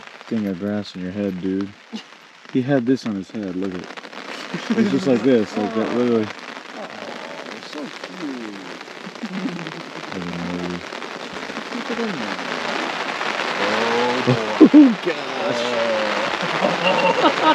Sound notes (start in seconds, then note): 4.3 all laughing; 9.7 rain pattering; 10.9 all chattering; 13.6 all laughing